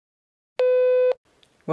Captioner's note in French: bip